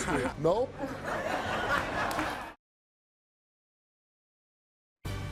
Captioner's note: audience laugh and clap; suspenseful music